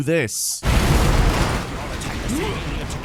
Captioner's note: bomb exploding